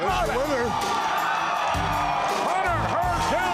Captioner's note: crowd cheering